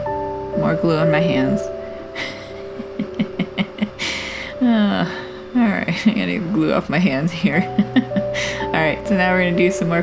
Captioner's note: laugh; sigh